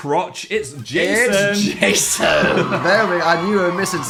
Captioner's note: Phil laughing